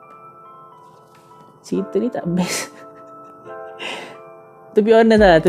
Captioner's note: giggles